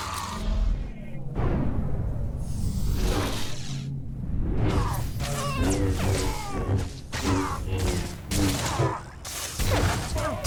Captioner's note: gunfire